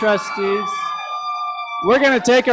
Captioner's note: cheers, applause